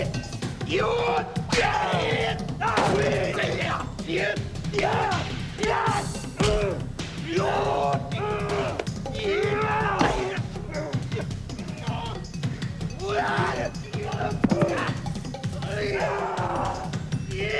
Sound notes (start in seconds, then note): 5.1 groaning; 12.5 yelling; 17.4 groaning